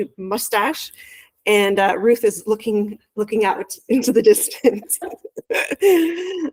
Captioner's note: laughs